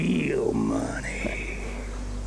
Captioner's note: laughing hysterically